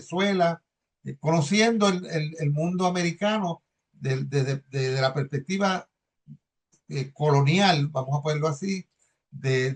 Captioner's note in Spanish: carraspeo